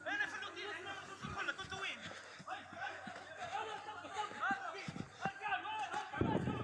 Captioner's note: people yelling in foreign language